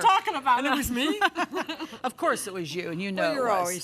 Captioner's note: both laugh